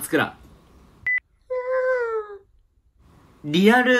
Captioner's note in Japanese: 高い声で